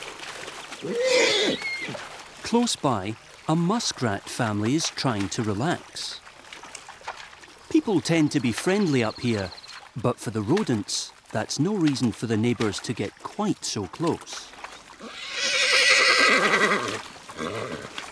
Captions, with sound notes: [horse whinnies] Close by, a muskrat family is trying to relax. People tend to be friendly up here, but for the rodents, that's no reason for the neighbors to get quite so close. [horse whinnies]